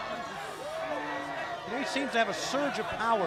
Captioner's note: crowd chatter